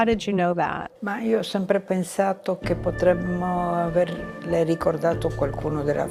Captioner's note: speaking in foreign language